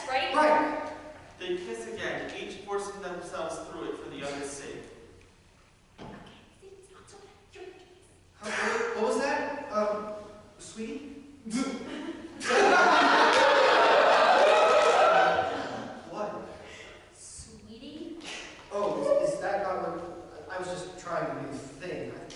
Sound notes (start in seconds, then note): 5.4 quietly; 11.9 audience laughter